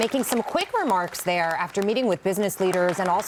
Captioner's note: applause